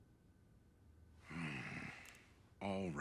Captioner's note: grunts